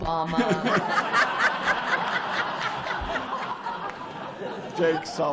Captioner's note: laughter